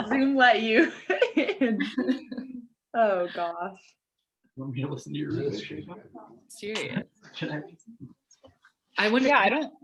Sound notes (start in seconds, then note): 0.0 laughing; 1.9 laughing; 5.0 voice muffling